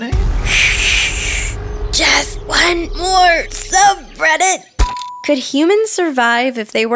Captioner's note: hiss